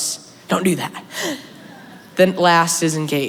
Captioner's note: laughter